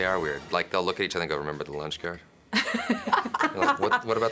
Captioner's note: they laugh